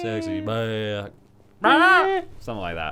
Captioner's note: yelps